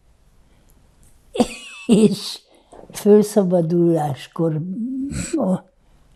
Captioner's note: laughing